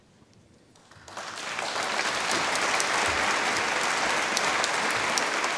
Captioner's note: audience applause